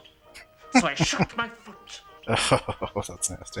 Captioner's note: chuckling